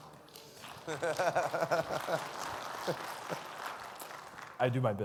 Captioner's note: audience applauds; laughs